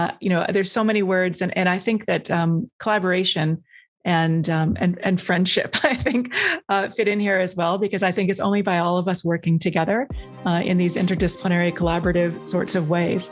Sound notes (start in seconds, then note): 5.8 chuckles